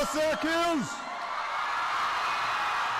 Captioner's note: applause